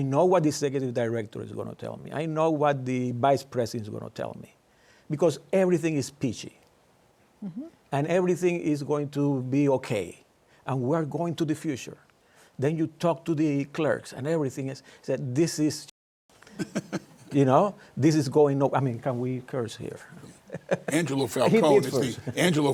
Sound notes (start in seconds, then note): 16.5 laughter